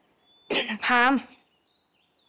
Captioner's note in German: hust